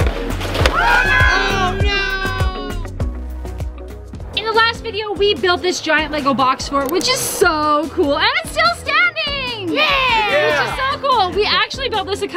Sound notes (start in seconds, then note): 0.6 yells